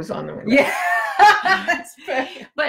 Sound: laughs

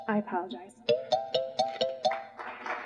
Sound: chime sounds

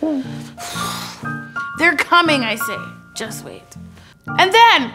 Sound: exhaling

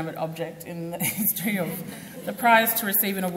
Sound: group laughs

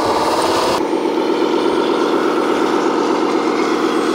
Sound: engine runs

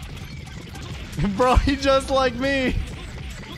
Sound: tiny chuckle

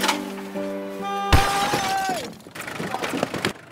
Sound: sound of car horn; screams

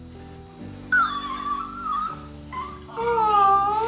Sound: dog yipping

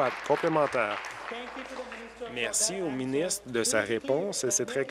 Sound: applause

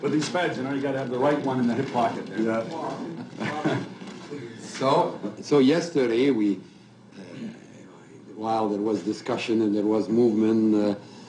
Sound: laughter

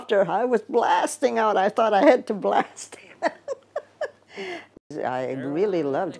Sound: laughs

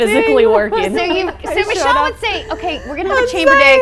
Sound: laughs

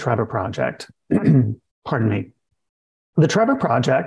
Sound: coughs

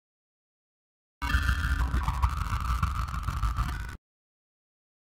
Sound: sound of digital signal

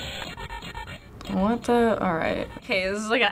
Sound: distorted buzzing

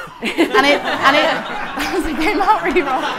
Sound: audience laughing

